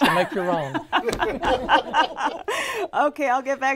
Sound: laughing

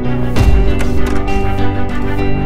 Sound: door opens

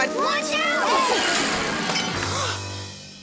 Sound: glass breaking

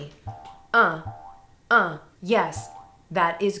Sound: bouncy spring sound

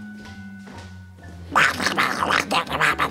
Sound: gremlin noises

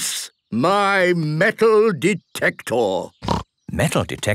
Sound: snorting

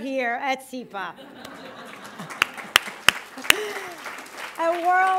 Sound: laughter, applause

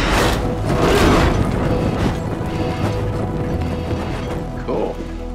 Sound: fire roaring

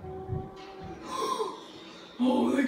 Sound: gasp

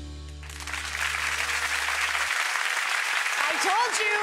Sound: audience clapping

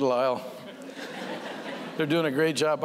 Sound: laughter

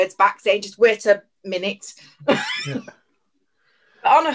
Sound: giggles

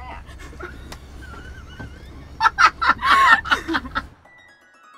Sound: chuckling; whimsical music

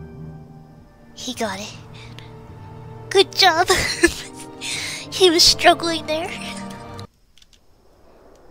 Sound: laughs

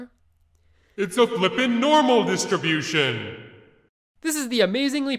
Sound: booming voice

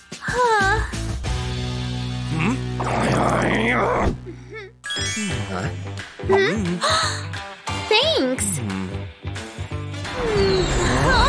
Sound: making happy sounds

